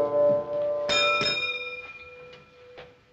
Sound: bell clangs

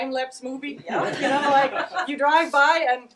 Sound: people laughing

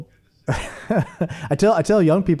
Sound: chuckles

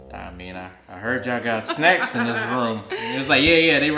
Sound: laughing

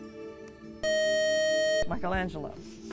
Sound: buzzer

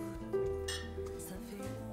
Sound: glasses clink together

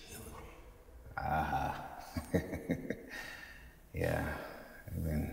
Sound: laughing

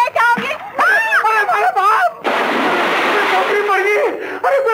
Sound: screams

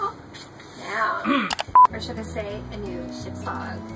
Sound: kissing; clears throat; beeping

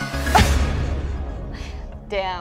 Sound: laughs

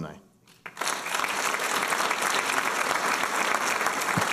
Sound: applause

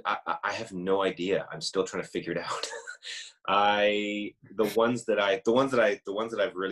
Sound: laughs

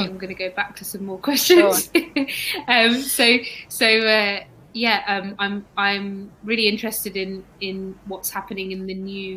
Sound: erm

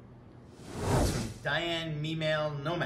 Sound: swooshing

